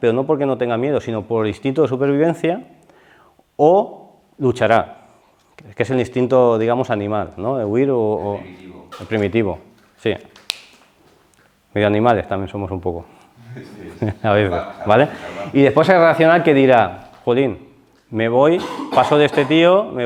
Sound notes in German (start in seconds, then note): 13.3 lacht